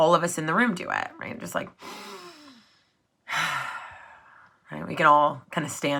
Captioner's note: breaths in and out